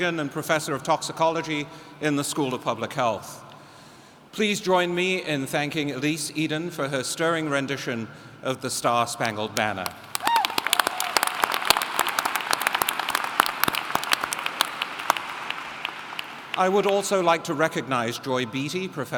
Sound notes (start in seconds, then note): 12.4 applauding